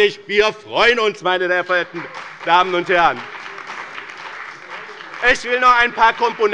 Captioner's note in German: Beifall bei dem BÜNDNIS 90/DIE GRÜNEN und der CDU